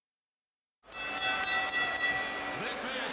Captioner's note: bell ringing